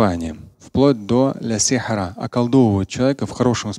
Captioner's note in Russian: говорит на арабском